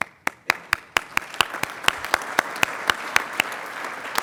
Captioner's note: applauding